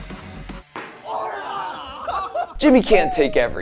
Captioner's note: people gasping